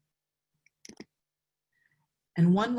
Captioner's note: mouse clicks